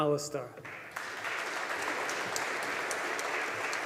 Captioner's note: audience applauding